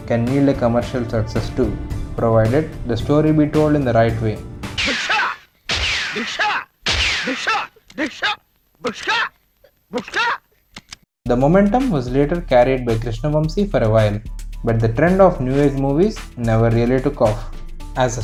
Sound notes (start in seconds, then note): 4.8 making noise from mouth while firing gunshots; 6.9 continuing to make noise despite firing blank shots